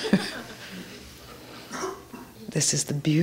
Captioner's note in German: Gelächter